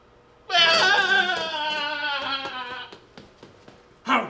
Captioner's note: sobbing